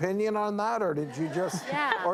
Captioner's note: laughter